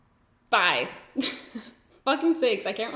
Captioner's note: giggles